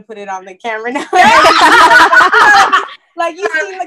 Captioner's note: laughter